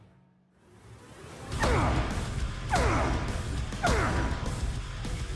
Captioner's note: grunting